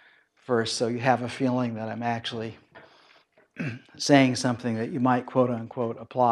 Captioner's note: cough